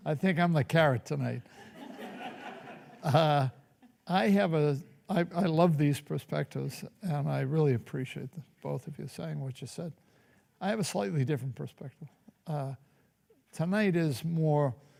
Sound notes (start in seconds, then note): 1.4 laughter